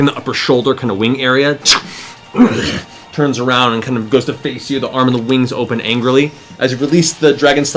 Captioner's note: growls